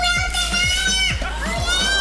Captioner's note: child screaming